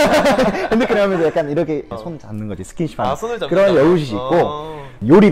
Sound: laughter

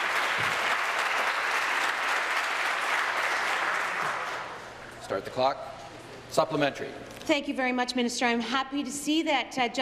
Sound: applause

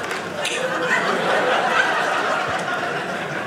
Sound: audience laughing

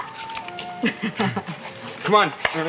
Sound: Fran laughs

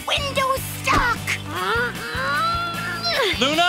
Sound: grunting

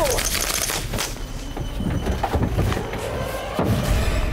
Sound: gunshots; dramatic music

